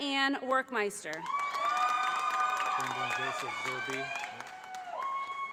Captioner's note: audience applauding